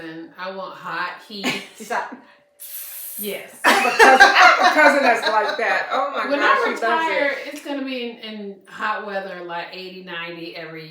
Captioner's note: laughter